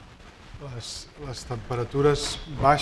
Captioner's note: speaking spanish